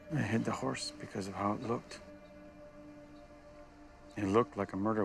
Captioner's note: birds chirping